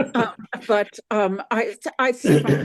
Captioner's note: everyone laughs